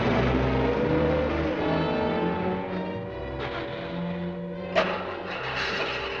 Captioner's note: engine sputtering